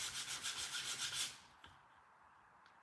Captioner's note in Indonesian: none